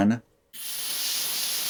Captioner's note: hissing sound